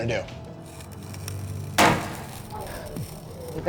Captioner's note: banging noise